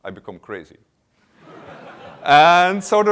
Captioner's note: laughter